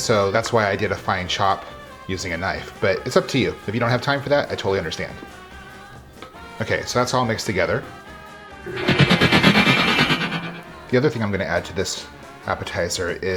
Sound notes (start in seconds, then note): 8.6 machine grinding